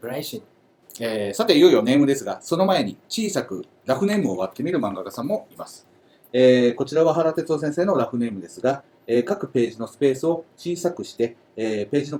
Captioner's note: speaking Japanese